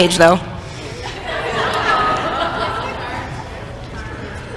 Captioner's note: crowd laughter